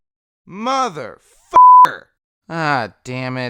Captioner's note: beep